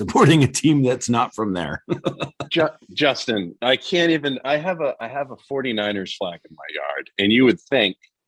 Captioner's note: chuckles